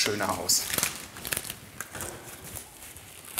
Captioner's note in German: Knacken, Knistern